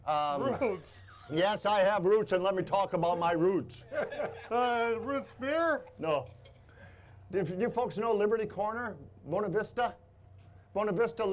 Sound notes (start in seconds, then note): 3.8 laughing